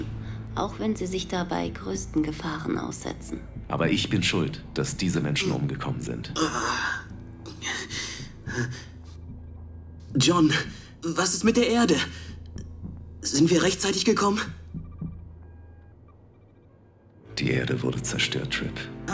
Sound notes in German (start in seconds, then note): 6.2 ächzt